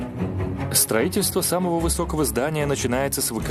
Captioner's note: voiceover